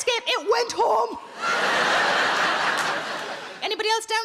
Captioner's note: audience laughing